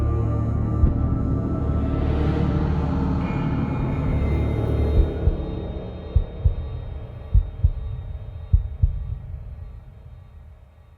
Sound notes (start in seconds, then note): 7.5 heart beating